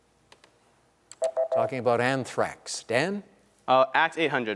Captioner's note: beep